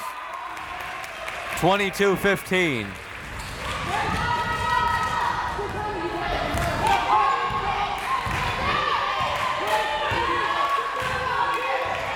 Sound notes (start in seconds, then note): 0.0 crowd clapping; 4.5 crowd members shouting